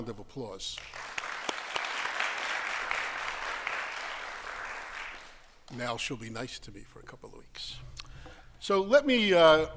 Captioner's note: applause